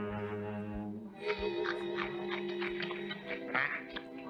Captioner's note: carrot crunching